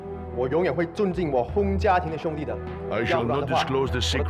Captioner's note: people speaking Chinese